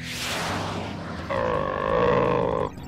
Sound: growling

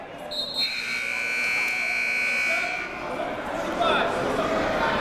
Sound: buzzer goes off

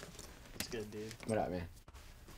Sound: hands slapping

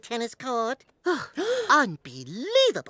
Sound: gasp

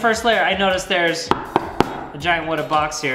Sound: knocking

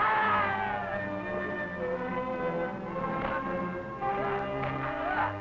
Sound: troops screaming; ominous orchestral music

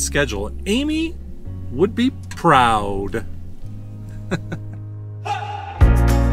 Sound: laughter

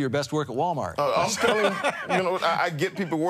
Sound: laughing

